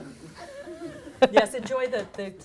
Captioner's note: people chuckling